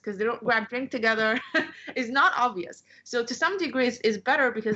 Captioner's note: laughter